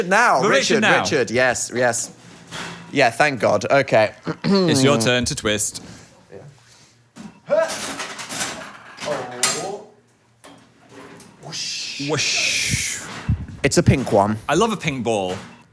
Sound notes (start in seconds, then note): 8.6 machine clinking